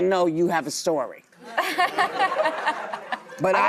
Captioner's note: audience laughs